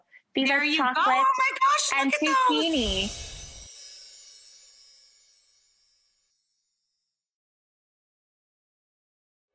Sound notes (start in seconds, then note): 2.6 graphics tinkle; 2.8 graphics whoosh